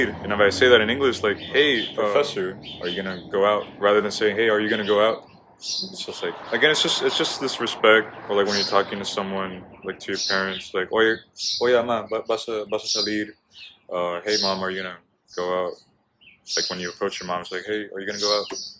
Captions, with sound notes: and if i say that in English like, "hey, professor, are you gonna go out?" rather than saying, "hey are you gonna go out?" it's just like, again, it's just this respect or like when you're talking to someone, like to your parents, like, [speaks in Spanish] "hey mom are you gonna go out?" like when you approach your mom it's like, "hey are you gonna go out?"